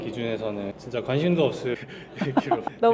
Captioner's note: doctor laughs